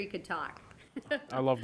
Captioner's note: laughing